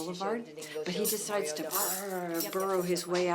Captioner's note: vocalizes